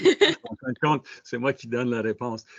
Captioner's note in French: rires